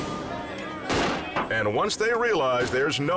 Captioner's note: object clunks